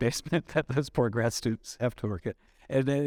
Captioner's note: chuckles